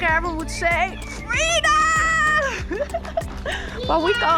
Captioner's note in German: lacht